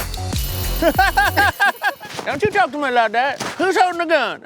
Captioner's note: techno beat; timer rings; laughs; southern accent